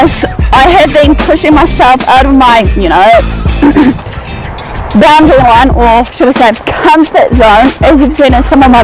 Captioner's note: coughs